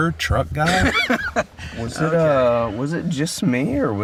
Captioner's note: laughing